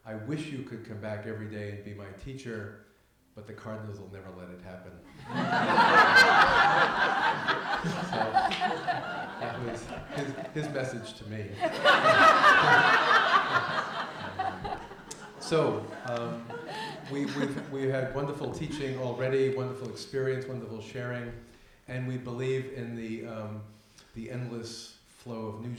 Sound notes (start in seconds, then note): 5.9 laughter; 12.1 laughter